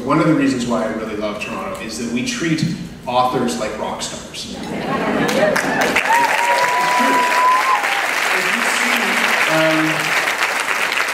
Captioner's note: applause